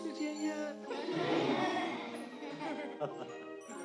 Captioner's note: laughter